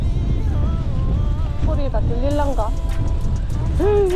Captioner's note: wind